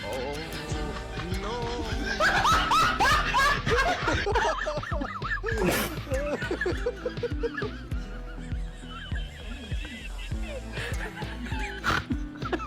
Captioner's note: laughing !